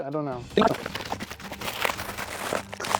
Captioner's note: plastic crinkling